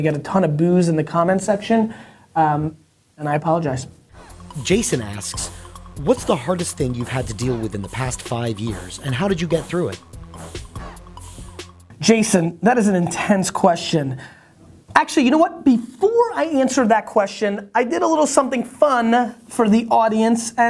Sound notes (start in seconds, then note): 4.5 voiceover